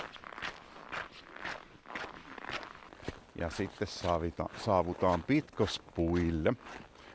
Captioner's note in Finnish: luistelun ääntä